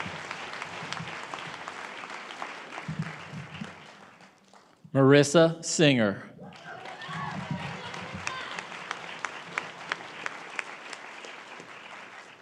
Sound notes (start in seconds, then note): 2.2 applause